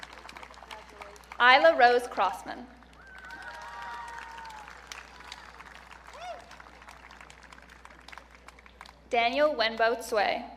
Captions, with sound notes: Ailla Rose Crossman. (audience cheering) Daniel Wenbo Cui.